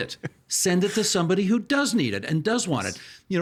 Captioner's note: chuckling